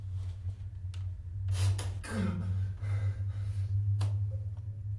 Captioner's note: Willem trying to regain breath